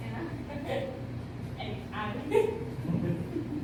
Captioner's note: giggle